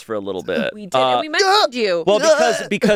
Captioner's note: groans